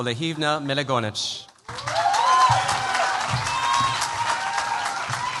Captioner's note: cheers, applause